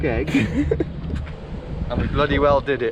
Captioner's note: laughs